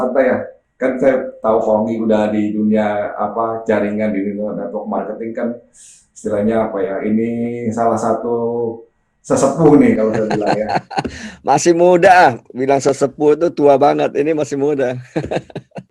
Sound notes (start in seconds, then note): 9.6 laughing